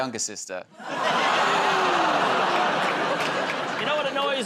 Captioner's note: audience groans